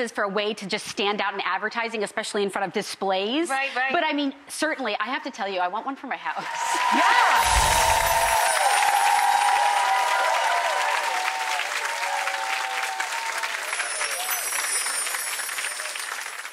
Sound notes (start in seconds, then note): 7.2 cheering and clapping; 7.3 bells chiming; 10.4 cheering and clapping; 13.0 bells chiming